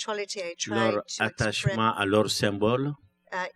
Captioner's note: speaking french